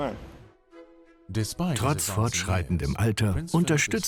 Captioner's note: voiceover